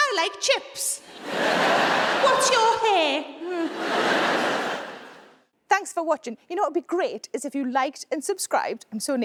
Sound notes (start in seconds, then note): 3.5 audience laughing